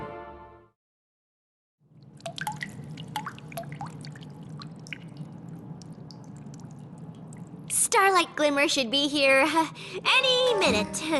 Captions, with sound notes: [dripping] Starlight Glimmer should be here any minute.